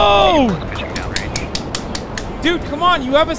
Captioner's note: clapping